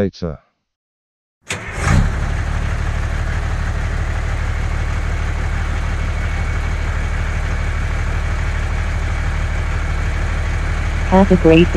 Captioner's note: bus engine idling